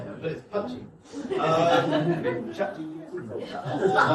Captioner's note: guests laugh